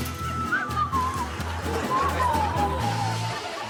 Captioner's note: blows whistle; whistling